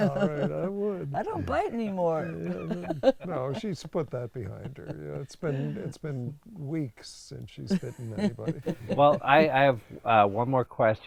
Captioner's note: laughs